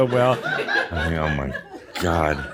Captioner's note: some chuckles